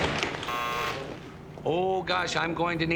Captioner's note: buzzer